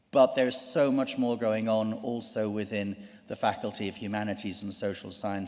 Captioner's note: none